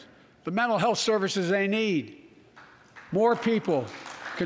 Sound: applause

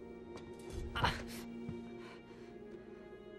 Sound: grunting in pain

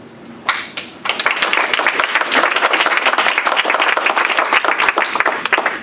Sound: applause

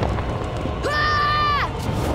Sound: yelling

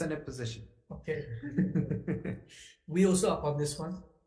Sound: laughs

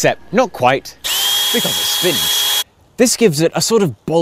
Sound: drill whirring

